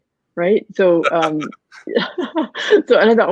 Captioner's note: laughs